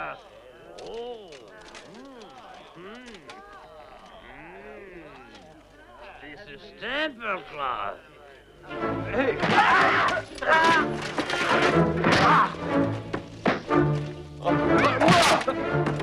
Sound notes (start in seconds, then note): 8.9 dramatic music; 9.6 Hundra yells; 12.4 all grunting